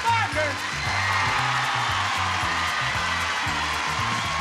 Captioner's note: audience cheering and applauding; theme music